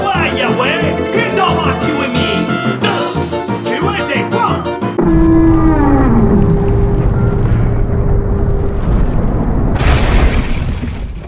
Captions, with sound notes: GO AWAY YA WAY! GO AWAY YA WAY! I THOUGHT YOU WERE ME FRIEND! I THOUGHT YOU WERE ME FRIEND! D U H ~ ! D U H ~ ! YA WANT 1v1?! YA WANT 1v1?! *elevator noise* *elevator noise*